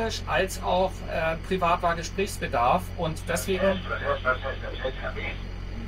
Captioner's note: radio message